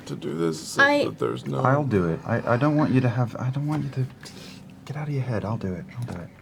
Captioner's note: none